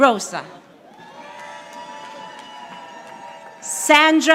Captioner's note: audience applauding